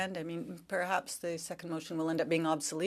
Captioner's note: speaking French